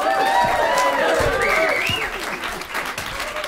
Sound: applause

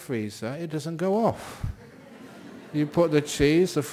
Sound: laughter

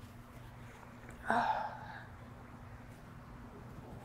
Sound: sighing

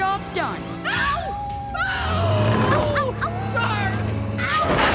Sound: screaming and howling

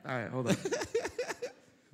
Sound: laughter

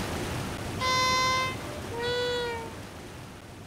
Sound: honk of despair

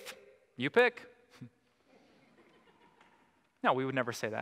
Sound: audience: Laughter

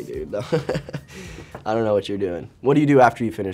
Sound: laughs

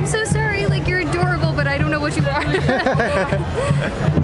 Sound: laughter

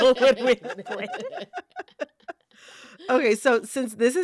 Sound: laughter

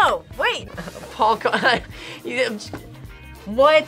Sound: laughs

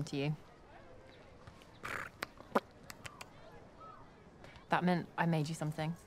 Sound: purring and tongue clicking

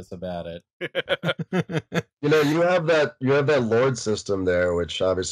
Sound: laughter

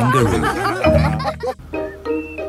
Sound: all laughing

